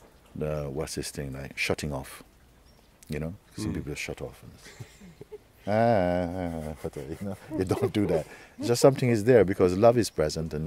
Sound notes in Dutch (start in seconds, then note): 5.6 gelach